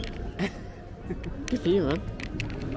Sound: man in hat laughing

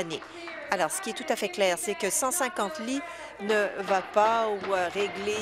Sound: applause

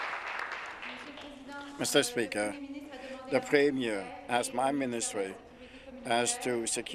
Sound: applause

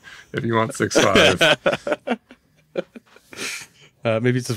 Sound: laughing

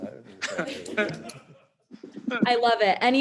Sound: members laughing

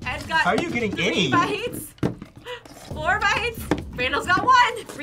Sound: laughs

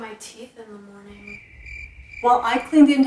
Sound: crickets Chirp

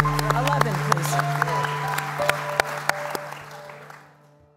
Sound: applause

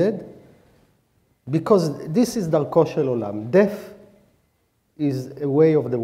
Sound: speaking hebrew

